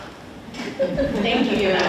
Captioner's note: audience laughs